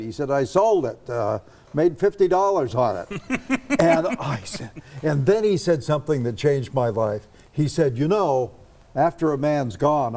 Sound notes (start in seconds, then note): 3.0 laughs